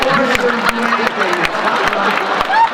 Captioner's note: laughter; applause